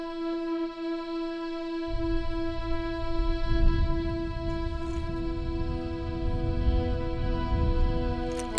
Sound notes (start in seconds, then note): 3.4 sky thundering